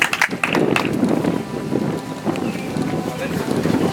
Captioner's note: audience applauds